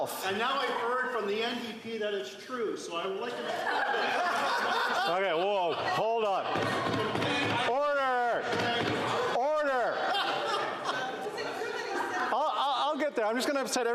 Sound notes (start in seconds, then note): 9.7 laughter